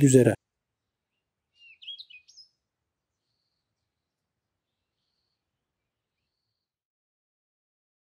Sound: birds are tweeting

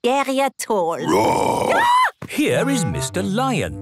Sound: roar, scream

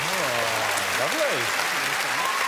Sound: applause

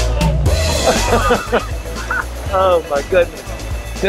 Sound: laughing

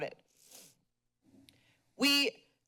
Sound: sniffles

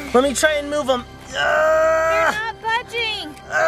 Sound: grunting

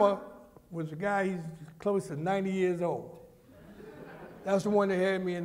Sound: laughter

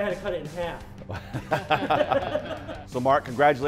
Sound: judges laughing

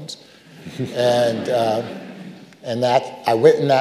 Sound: audience laughing

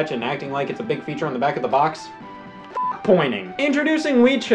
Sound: beep

